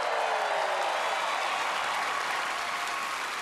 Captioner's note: cheering and applause